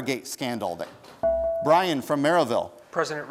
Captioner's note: bell rings